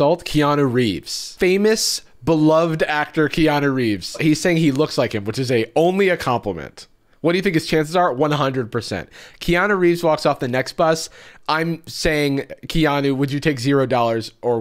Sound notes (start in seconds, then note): none